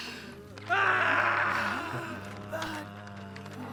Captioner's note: villagers groan; oscar screams